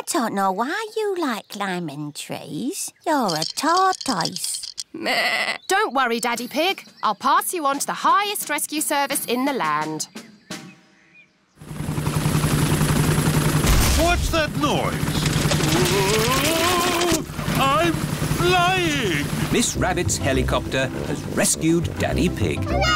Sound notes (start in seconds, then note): 4.9 bleats; 12.4 whirring; 13.6 thuds